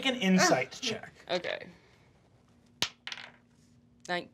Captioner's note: dice clacking